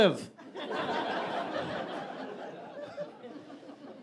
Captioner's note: audience laughing